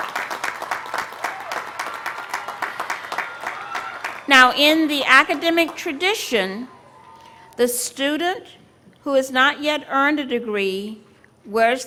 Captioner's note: applause